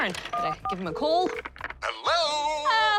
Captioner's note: line rings